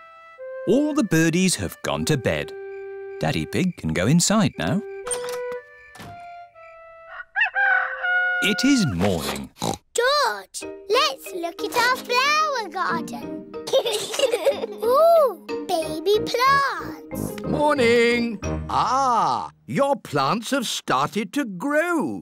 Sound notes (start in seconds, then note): 7.0 rooster crowing; 9.2 oinks; 13.6 both giggling